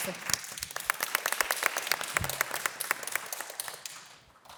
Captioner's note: audience applause